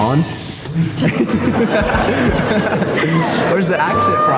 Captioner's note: laughs